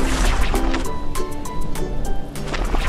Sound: portal noise

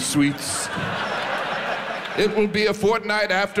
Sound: audience laughs

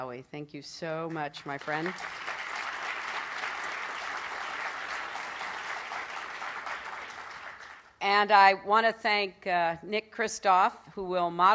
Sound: applause

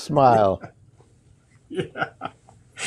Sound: laughs

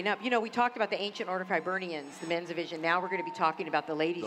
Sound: cheering

